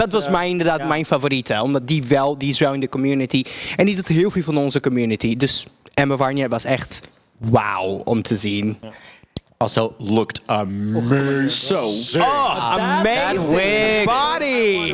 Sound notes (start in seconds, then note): 11.5 gaggle gaggle